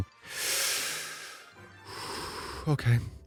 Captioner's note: inhales and exhales deeply